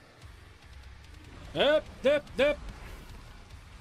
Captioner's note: panicked dodging noises